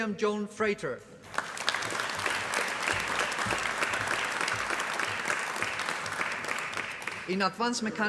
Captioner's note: applause